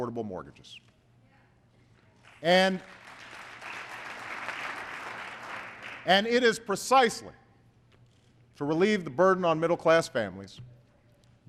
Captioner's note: applause